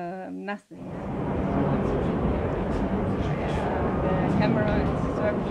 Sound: speakers words are drawn out

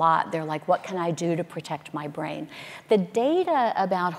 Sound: none

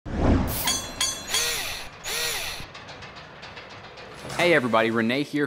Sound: mechanical SFX

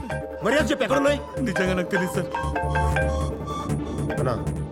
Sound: phone rings

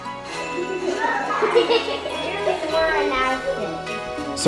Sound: kids giggling

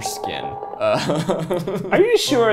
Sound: laughs

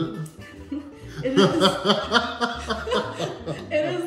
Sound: laughing

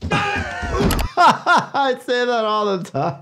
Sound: doctor laughing

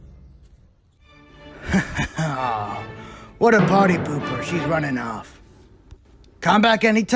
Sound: laughs

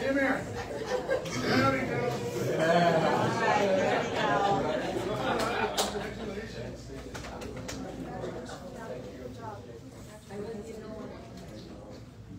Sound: indistinct chatter

